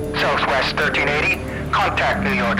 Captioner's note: man Over Radio